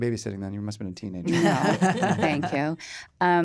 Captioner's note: laughter